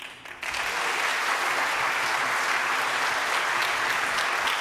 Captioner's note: audience applauds